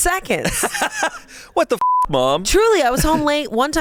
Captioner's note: laughs; beep